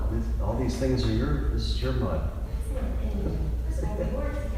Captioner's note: laughs